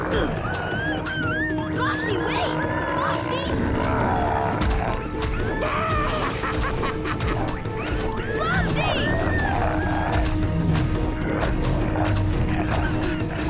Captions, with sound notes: [whimpering] Flopsy, wait! Flopsy! [growling] [laughing] Flopsy!